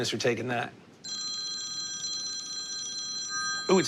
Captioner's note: cellphone rings